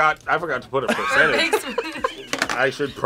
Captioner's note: laughs